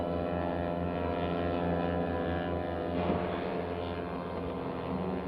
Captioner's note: engines rumbling